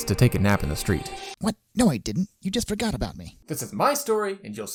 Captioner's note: exasperatedly